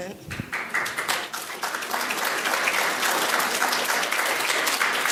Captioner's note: audience applauding